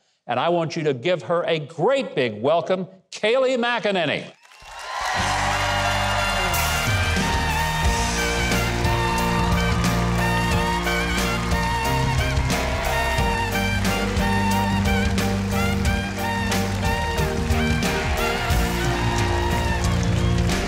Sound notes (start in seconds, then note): 4.8 audience cheers; 7.9 jazzy music